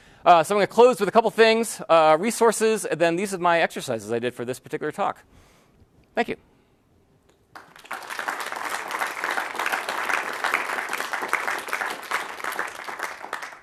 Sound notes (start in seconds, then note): 7.4 clapping